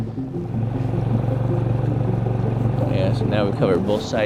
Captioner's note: boat rumbling